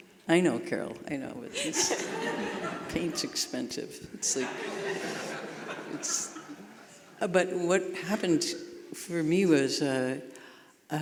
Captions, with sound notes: I know, Carol, I know, paint's expensive. (audience laughing) But what happened for me was,